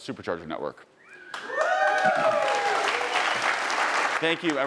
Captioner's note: audience cheering